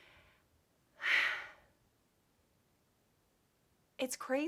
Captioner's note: sighs